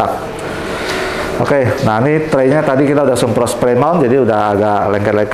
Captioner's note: inhale